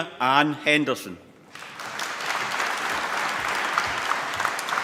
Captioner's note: applause